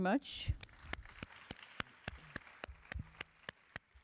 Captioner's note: applause